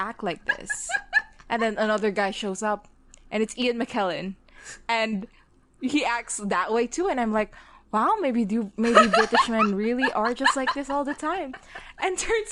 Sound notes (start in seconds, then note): 0.4 laughing; 11.4 both laughing